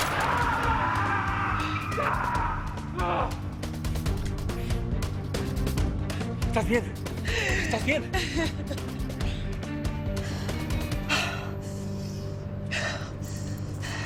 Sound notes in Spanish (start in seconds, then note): 0.0 Gritos; 7.3 Solloza